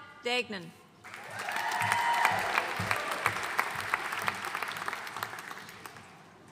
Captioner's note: audience cheering and applauding